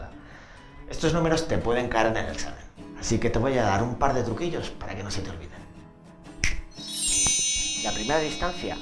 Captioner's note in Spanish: Chasquea los dedos